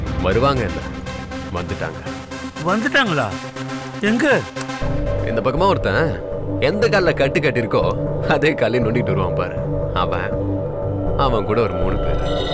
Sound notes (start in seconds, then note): none